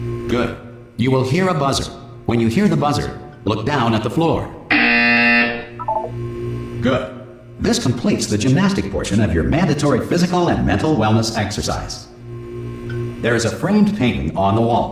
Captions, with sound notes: Good. You will hear a buzzer. When you hear the buzzer, Look down at the floor. *Another obnoxious buzzer sound* Good. This completes the gymnastic portion of your mandatory physical and mental wellness exercise. There is a framed painting on the wall.